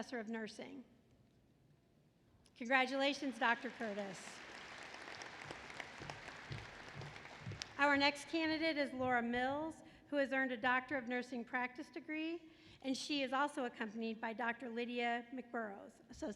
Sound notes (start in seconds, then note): 3.2 applause